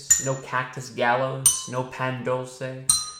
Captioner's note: bell dings